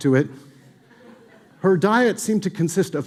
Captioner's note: audience laughing